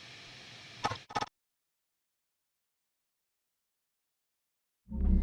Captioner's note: static crackles